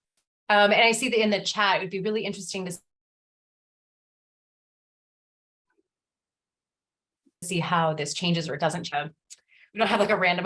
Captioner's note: audio cuts out